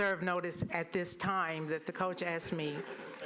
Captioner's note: laughter